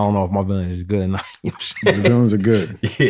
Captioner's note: laughter